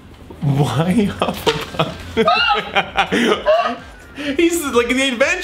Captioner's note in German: kichert